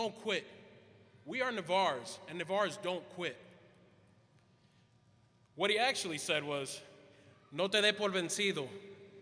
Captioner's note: quote in Spanish